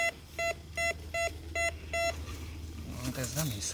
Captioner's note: beep beep beeeeeep